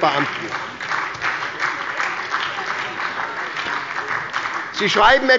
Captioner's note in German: Beifall bei der SPD und der LINKEN